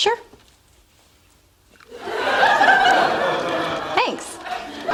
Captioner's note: laughter